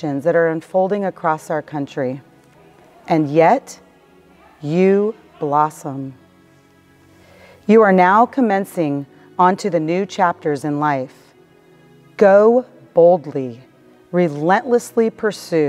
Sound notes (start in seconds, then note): 5.4 woman shouting